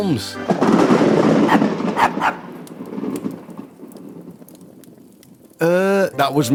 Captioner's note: thunder clap, dog barks